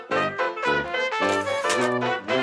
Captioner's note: sfx: typewriter carriage return